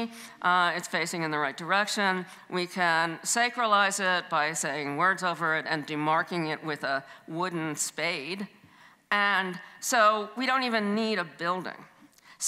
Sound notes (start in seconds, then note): none